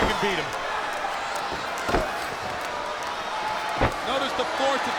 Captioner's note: crowd murmuring